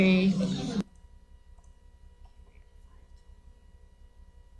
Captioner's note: clicking